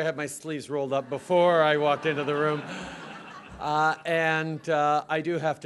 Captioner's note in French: Rires